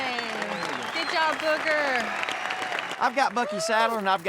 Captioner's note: cheers